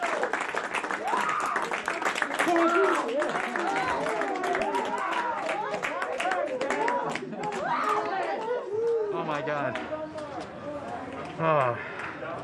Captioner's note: applause